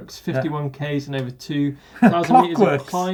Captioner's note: laughing